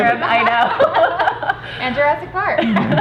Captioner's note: girls laughing